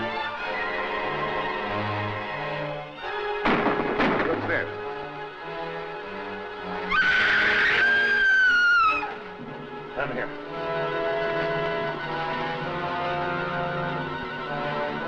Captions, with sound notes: (gunshots fire) - Who's there? (Dina screams) - Down here. (intense music)